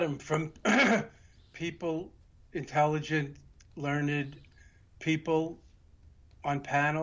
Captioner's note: clearing throat